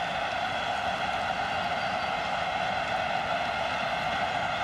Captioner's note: cheering